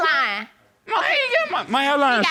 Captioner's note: exclaiming